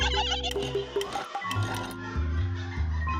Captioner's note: laughter in the distance